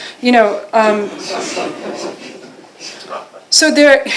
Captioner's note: laughter